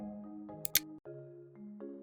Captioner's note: click sound